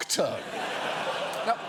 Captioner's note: audience laughing